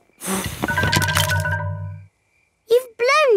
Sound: blowing

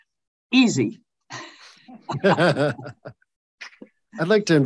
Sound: chuckles; chuckling

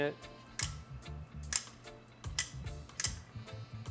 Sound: clicking

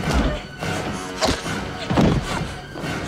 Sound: thudding

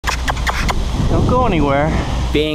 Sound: makes bird call

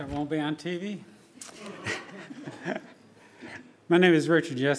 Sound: laughing

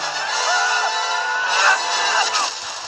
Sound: Jones frightened, screams

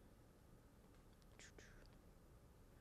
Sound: none

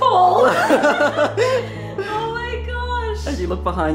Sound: laughs

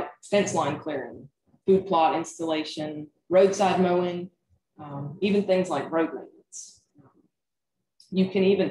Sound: voice Low

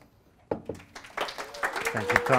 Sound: audience applauds

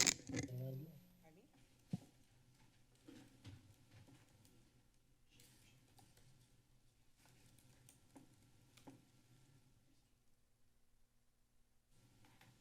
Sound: silence

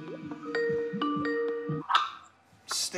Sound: skype ringtone

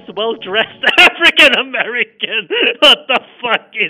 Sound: lolz x12

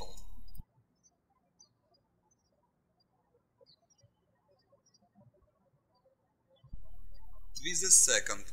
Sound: birds chirping

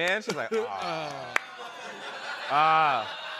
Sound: laughter

